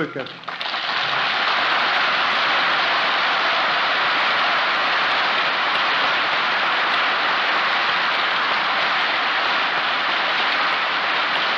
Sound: applause

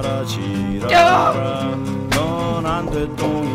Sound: moaning

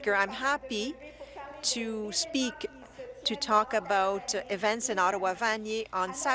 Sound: speaking French

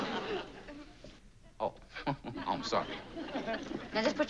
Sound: chuckles

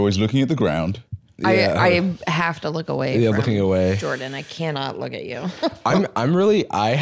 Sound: laughs

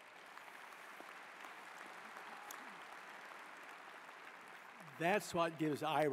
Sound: applause

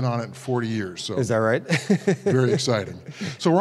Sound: laugh

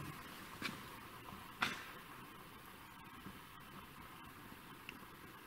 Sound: feet shuffling

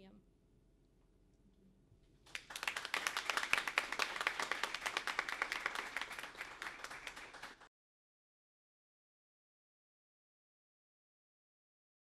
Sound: applause

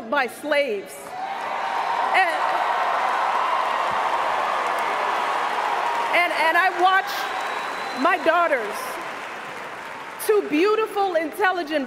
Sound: cheers, applause

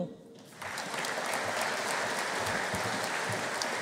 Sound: audience applauding

